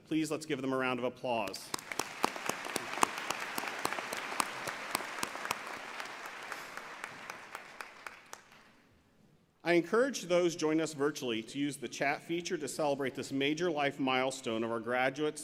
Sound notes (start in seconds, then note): 1.5 applause